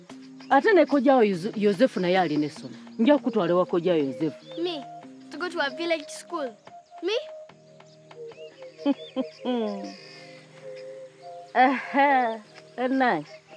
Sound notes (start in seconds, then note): 8.7 chuckles